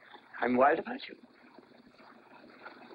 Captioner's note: voice cracks